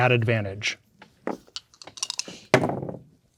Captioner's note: dice rolling; dice rattling